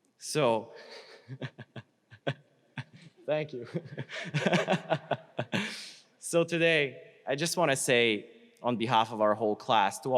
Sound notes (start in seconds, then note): 3.2 chuckles; 3.3 laughs